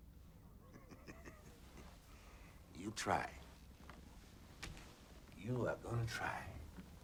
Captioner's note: chuckles